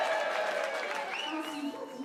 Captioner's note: cheers and applause